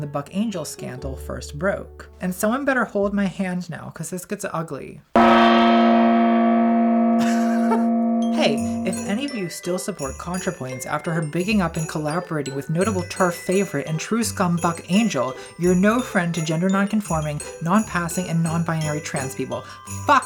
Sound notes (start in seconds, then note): 5.1 gong rings; 7.6 laughs